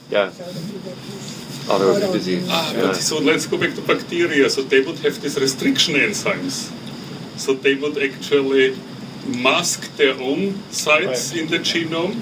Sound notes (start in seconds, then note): none